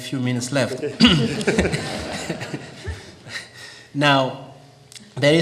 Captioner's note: audience laughing